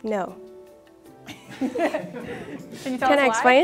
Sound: judges laugh

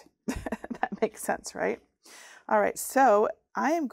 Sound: chuckles

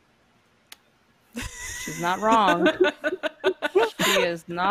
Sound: laughing

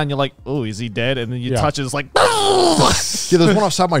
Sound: yells

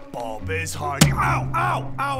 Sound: bang

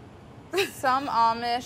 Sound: laughing

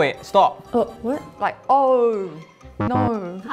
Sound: buzzer buzzes

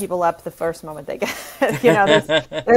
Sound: laughs

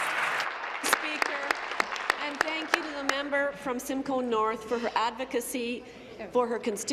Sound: applause

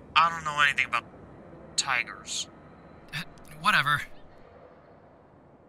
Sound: none

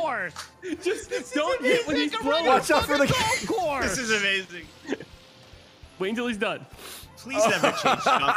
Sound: laughs

